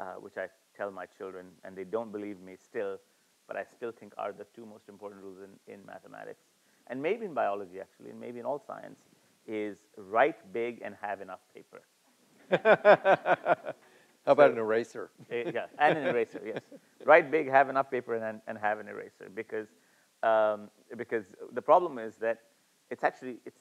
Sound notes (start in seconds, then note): 12.4 laughs